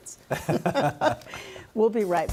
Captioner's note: laughing